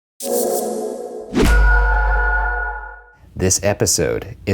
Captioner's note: air whooshing